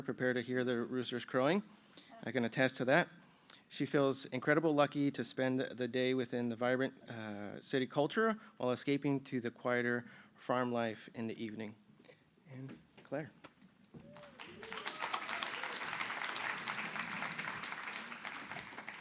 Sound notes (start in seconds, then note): 14.0 applause